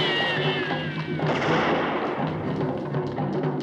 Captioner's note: gunshot